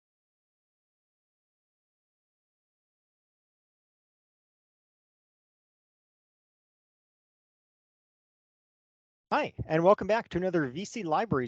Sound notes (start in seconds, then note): 2.0 silence